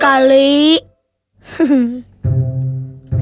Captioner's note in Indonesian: Nussa tertawa